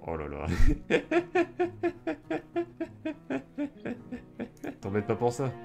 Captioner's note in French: Rires